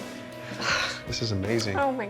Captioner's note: exhales sharply